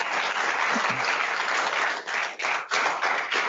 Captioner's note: applause